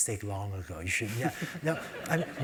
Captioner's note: laugh